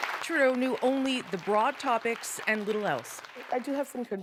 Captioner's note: applause